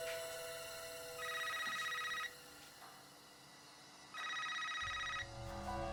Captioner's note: phone rings